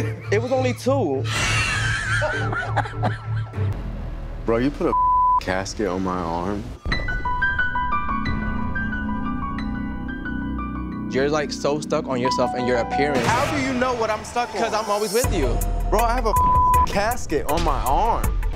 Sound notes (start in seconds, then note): 0.0 laughs; 1.3 all laugh; 7.0 dramatic music